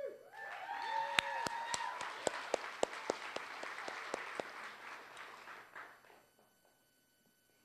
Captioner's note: applause